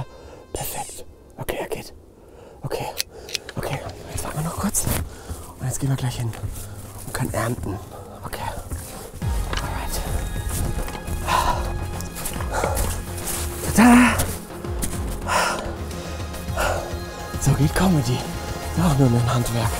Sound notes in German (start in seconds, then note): 8.8 Spannungsvolle Musik; 14.7 Lautes Atmen